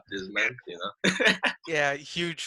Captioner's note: laughing